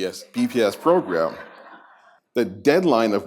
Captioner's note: laughter